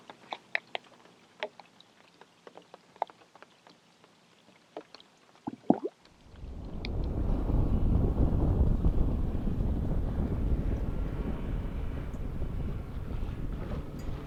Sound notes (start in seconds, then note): 6.1 wind rustling